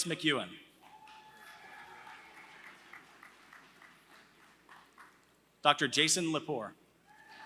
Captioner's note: applause; applause